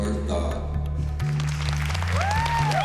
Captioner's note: whooping, applause